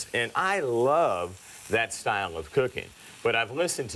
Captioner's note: none